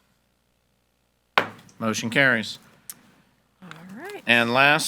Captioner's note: hammer slamming